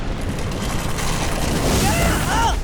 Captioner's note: groaning